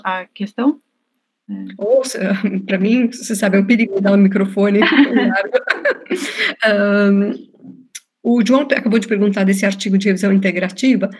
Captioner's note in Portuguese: risos